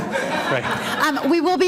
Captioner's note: audience laughter